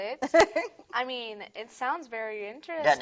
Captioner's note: laughing